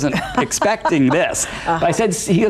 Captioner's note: laughs